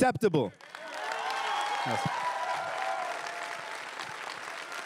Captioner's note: everyone cheering and applauding